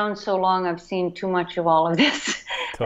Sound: chuckles

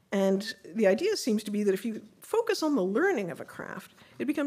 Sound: none

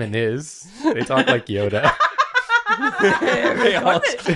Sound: howls with laughter; laughs

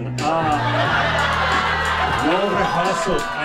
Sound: audience laughing

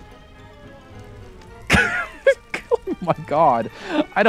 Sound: laughs

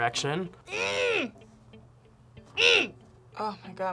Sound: grunts

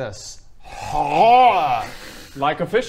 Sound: hrrrllrggrrhghh

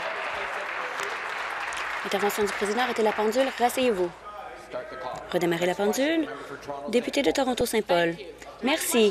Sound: applause

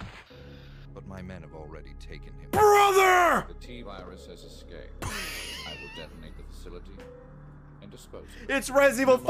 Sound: laughs

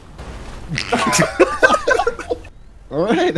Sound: laughter

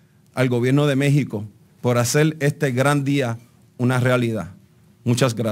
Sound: speaking in Spanish

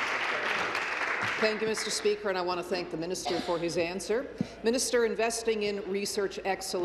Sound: applause

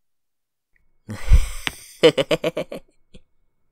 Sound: chuckles

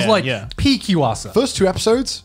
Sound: murmurs

